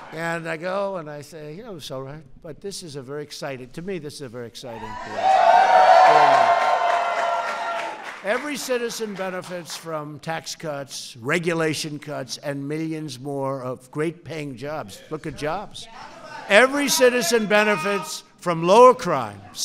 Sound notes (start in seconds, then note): 5.6 applause